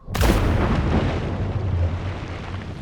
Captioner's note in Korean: 물에 첨벙하는 소리